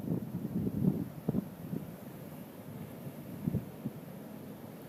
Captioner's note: wind gusting